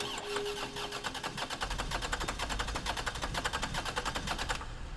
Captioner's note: car engine cranking